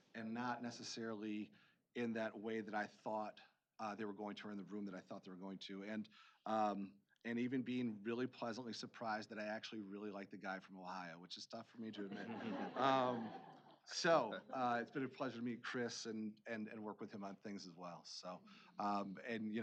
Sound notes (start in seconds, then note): 11.9 laughing